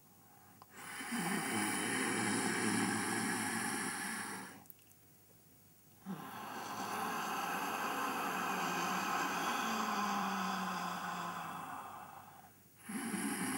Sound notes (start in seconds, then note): 0.4 sound of inhalation - "Hhhhh"; 6.0 sound of exhalation - "Haaa"; 12.9 sound of inhalation - "Hhhhh"